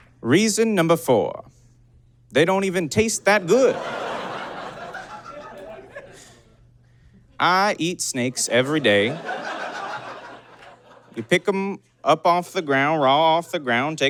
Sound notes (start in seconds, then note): 3.1 audience giggles; 9.3 giggling intensifies